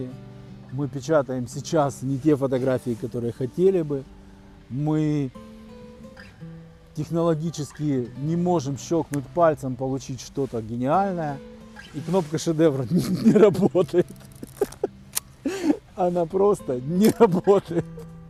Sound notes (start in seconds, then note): 12.8 laughs